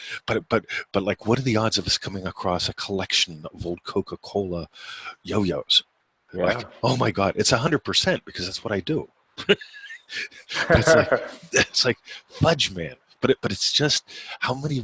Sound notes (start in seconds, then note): 9.4 laughing